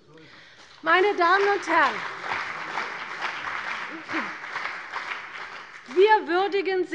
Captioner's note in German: Beifall bei der CDU und dem BÜNDNIS 90/DIE GRÜNEN